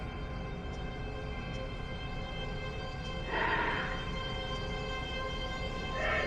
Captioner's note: soft intense music; monster rasping softly